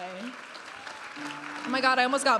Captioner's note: audience applauding and cheering